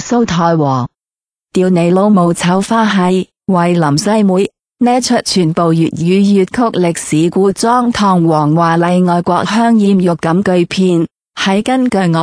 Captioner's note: Cantonese dialogue